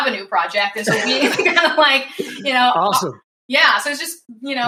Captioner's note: laughs